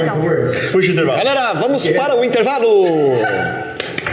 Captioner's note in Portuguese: risos